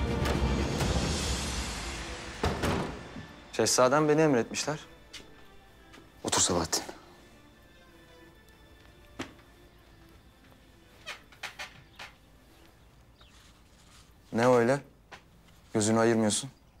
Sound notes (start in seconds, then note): 0.1 sound of door opening; 2.4 door closing sound; 7.9 silence